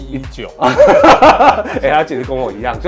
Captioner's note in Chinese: 哈哈哈